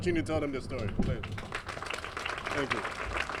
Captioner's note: applause